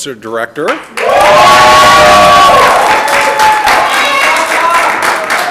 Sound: audience applauding

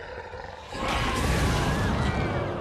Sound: flames whoosh; crowd screams

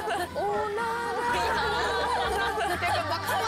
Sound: haha

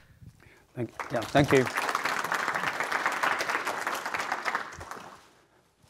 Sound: audience applauding

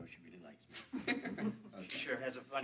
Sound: friends laugh

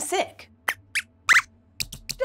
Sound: squeaks squeaks

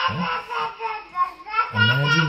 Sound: baby speaks gibberish

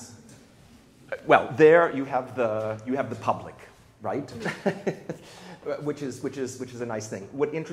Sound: laughs

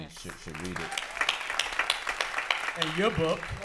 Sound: applause

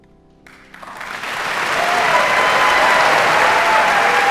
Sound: audience cheering

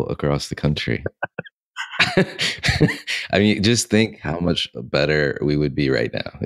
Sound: both laugh

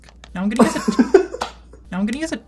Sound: laughs

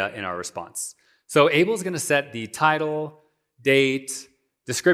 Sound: none

